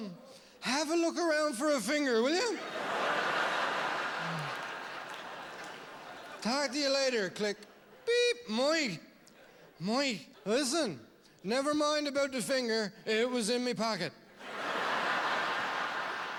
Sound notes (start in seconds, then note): 7.4 click; 14.4 laughter